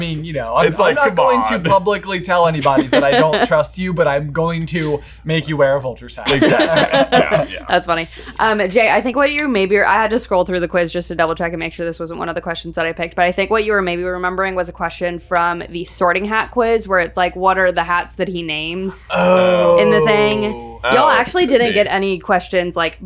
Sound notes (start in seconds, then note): 6.2 laughing; 19.0 exclaims